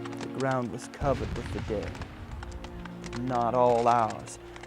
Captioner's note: voiceover